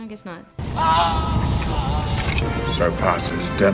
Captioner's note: Denethor screaming